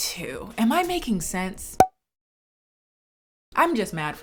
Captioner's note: popping